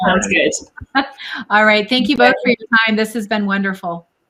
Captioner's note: giggles